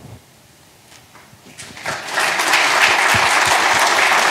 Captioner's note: applause